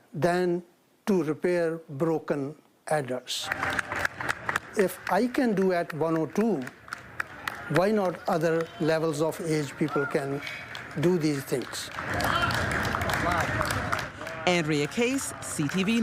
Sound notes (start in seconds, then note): 7.8 applause